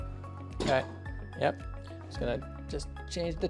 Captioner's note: table clatters